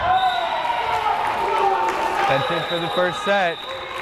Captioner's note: whistle blares